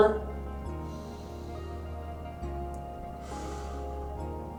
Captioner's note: inhales; exhales